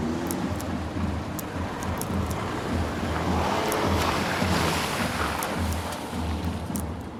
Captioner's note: crunch of eating seeds